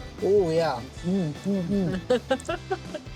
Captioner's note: laughing